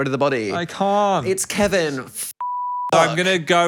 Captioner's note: beep